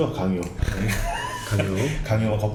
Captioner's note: laughing